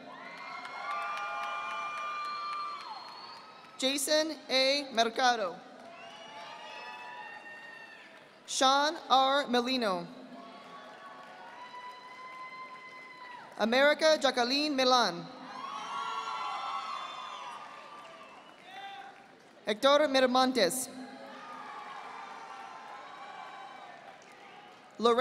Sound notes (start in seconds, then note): 0.0 audience applauding; 5.7 audience applauding; 10.4 audience applauding; 15.6 audience applauding; 21.2 audience applauding